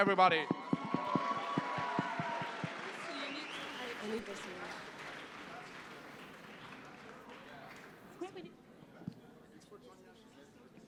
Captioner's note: cheering and applause